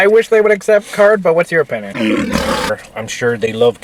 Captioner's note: lion roaring